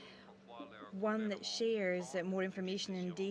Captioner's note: speaking French